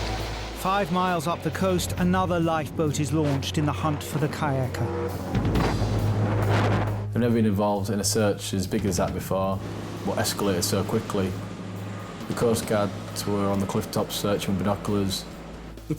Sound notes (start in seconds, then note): 0.0 waves roaring; 6.5 wind howling